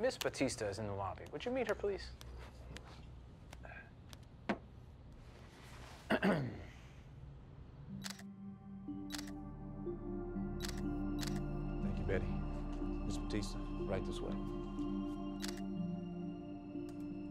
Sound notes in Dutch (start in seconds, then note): 6.1 Tommy schraapt zijn keel; 7.4 camera sluiter klikt; 15.4 camera sluiter